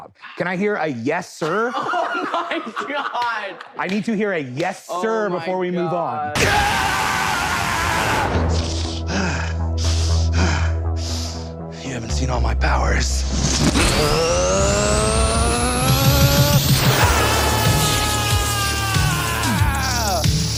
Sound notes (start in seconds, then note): 6.2 sound of beam blasting; 8.6 heavy breathing; 17.6 sound of electricity surrounding